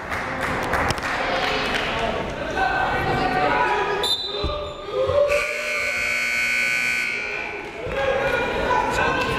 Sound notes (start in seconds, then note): 5.3 whistle blaring; 5.3 buzzer blaring